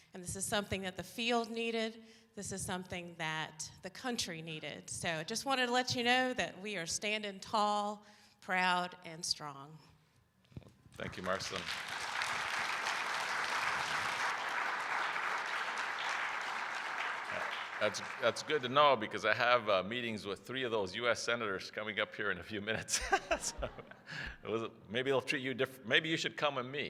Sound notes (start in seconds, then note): 10.9 applause